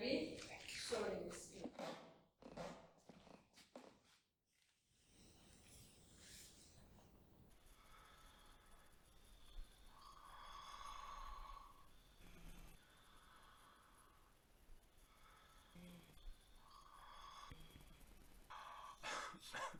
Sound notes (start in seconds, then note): 8.9 patient breathing; 12.8 heavy breathing continues